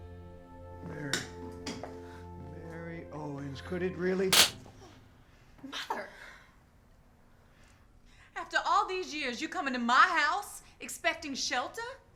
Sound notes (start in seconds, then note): 4.4 slap